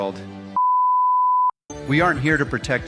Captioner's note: beep